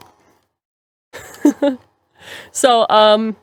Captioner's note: laugh